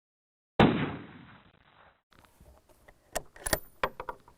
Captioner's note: rifle bangs; rifle shell clatters